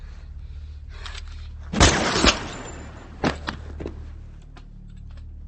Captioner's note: gun shot fires